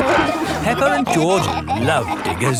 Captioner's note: peppa and george laughing